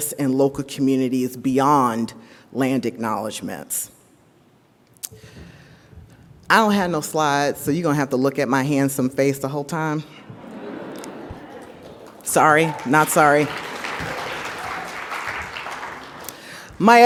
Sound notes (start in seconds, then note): 10.2 audience laughs; 13.5 audience applauds